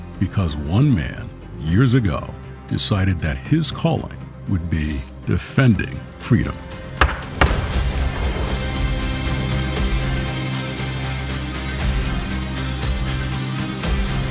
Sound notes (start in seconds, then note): 7.0 gavel clacking; 7.6 spirited music